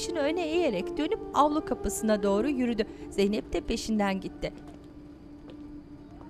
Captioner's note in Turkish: Müzik - Hüzünlü; Ayak sesi